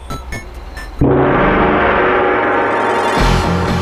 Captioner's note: gong